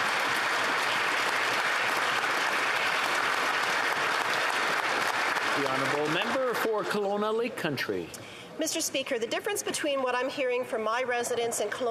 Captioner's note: applause